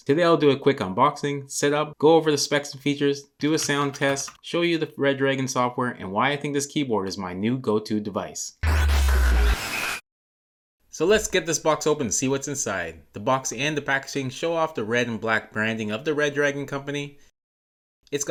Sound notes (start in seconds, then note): 8.6 electricity buzzing